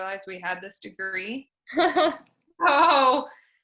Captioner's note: laughs